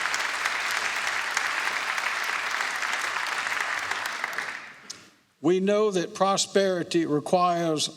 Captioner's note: applause